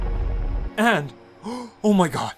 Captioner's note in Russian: вздох удивления